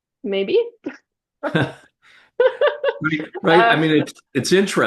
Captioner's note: both laughing